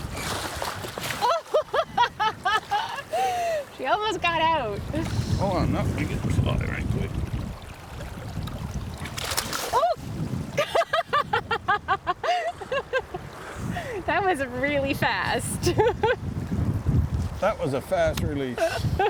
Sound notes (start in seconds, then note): 2.3 water splashing; 10.6 laughing